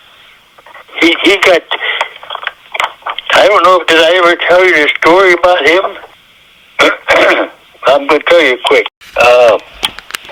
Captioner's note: coughs